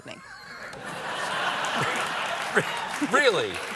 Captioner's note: laughter